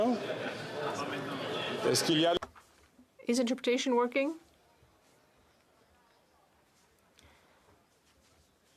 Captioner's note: speaking French